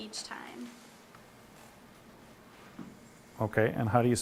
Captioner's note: silence